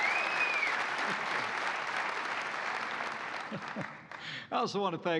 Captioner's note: laughs